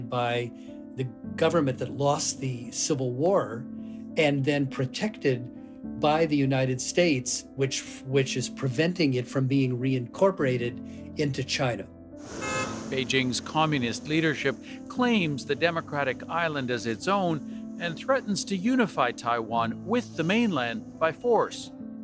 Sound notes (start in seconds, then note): 12.3 soundbite of archived recording